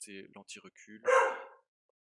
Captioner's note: bark